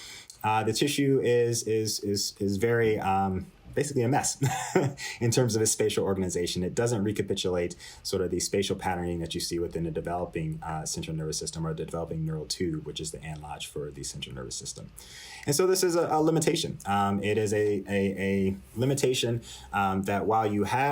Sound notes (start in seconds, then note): 4.4 laughter